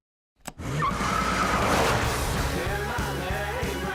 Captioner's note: car ignites